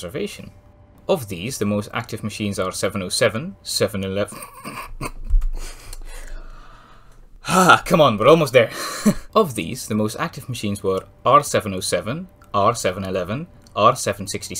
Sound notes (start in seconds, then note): 4.3 snigger; 8.9 chuckle